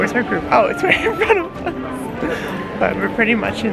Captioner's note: lols